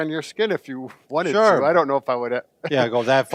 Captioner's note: laughing